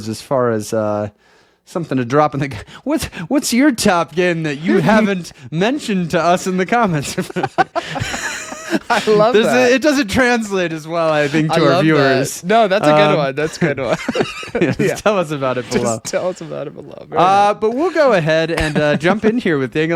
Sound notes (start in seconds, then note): 6.8 laughing; 14.4 laughing